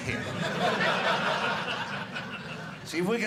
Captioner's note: audience laughing